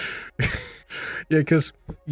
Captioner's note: laughs